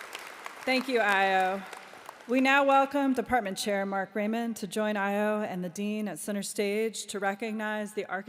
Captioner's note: applause